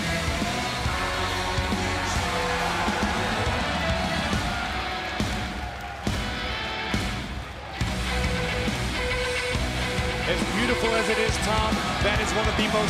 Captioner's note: cheers and applause